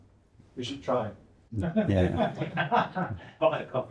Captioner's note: laughing